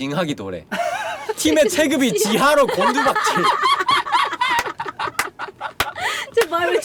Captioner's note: laughter